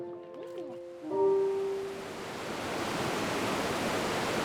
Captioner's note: water rushing